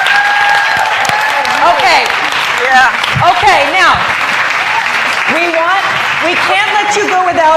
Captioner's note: applause